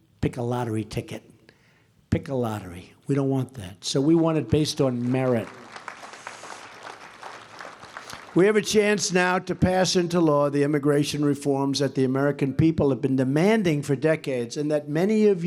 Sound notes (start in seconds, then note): 4.8 applause